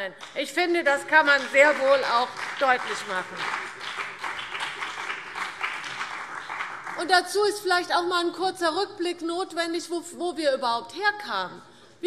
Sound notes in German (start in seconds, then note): 4.0 Beifall CDU und BÜNDNIS 90/DIE GRÜNEN